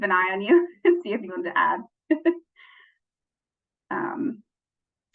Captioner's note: chuckles